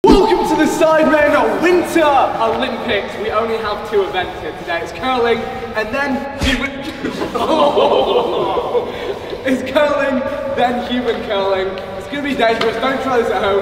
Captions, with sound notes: - Welcome to the Sidemen Winter Olympics. We only have two events here today. It's curling and then- (whacking sound) (group laughing) It's curling, then human curling. It's gonna be dangerous, don't try this at home.